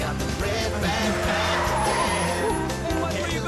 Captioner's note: tires screeching